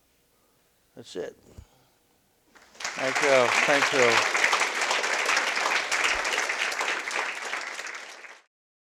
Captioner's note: applause